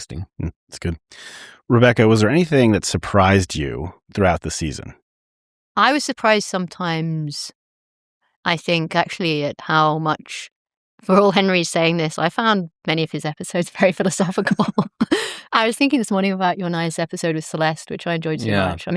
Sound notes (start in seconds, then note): 14.4 laughter